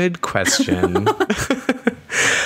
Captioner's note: laughter